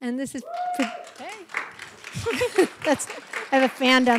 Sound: applause

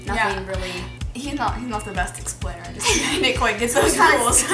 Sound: laughs

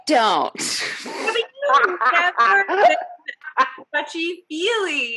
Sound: all laughing

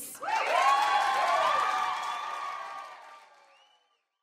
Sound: audience cheering

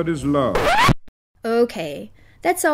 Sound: record scratch

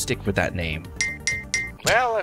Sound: three ding sounds

